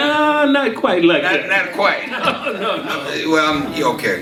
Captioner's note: laughs